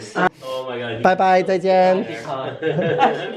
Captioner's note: in Mandarin